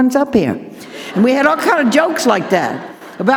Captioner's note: audience laughing